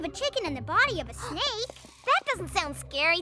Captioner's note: gasps